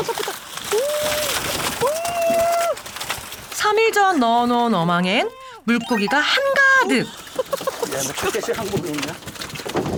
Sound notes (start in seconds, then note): 1.8 flapping, flapping